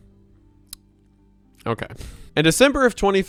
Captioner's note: clicks tongue